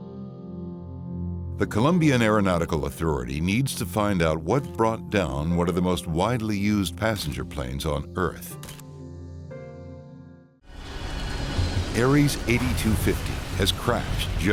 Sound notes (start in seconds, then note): 0.3 sinister music; 9.0 camera clicking; 10.7 airplane engine roaring